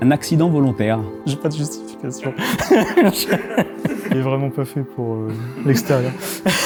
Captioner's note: laughs